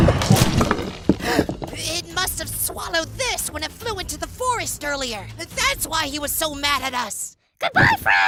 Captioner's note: gasp